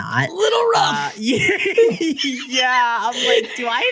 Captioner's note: laughter